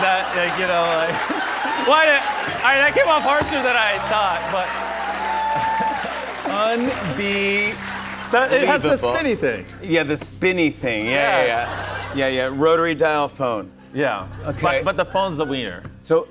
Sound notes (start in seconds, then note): 0.0 laughter; 1.3 laughter and applause; 4.7 cheers and applause